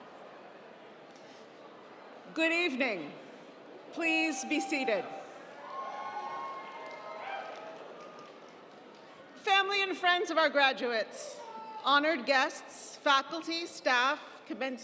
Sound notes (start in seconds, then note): 5.5 audience cheering; 5.6 audience applauding